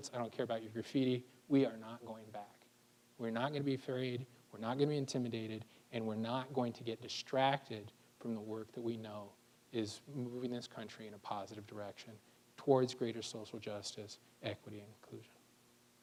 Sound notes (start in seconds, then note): none